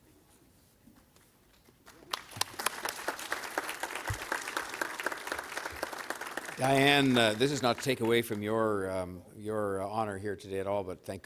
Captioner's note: applause